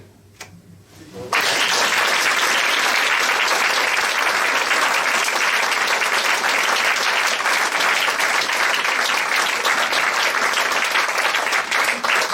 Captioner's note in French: applaudissements